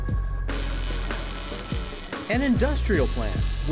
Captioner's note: welding